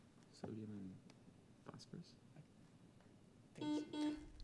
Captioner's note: team whispering; buzzer beep